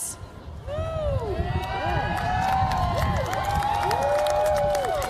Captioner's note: cheers, applause